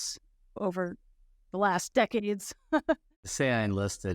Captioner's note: chuckles